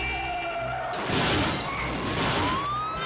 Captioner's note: glass shattering; sirens blaring